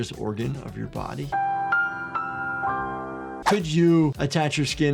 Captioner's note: graphics chimes